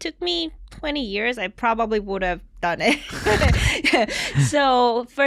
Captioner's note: chuckles